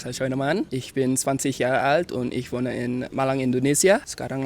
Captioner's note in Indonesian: berbicara dalam bahasa Jerman